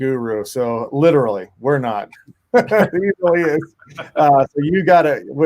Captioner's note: laughing